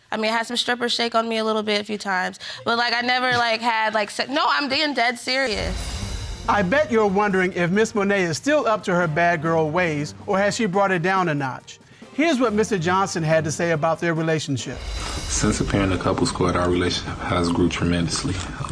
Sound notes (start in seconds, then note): 4.3 scoffs